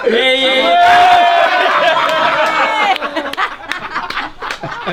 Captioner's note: all cheering